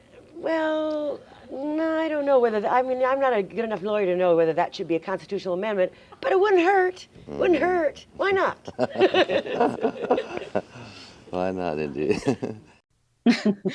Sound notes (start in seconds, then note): 8.6 both laugh; 12.7 laughs